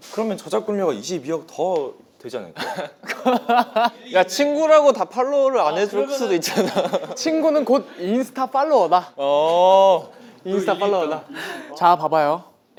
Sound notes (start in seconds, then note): 2.6 laughing; 11.1 hehehe